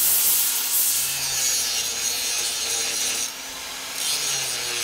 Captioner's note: grinder whirring